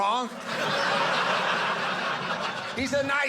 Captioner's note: audience laughing